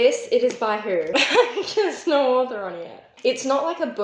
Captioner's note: laughter